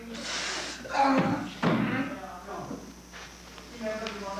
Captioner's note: sobbing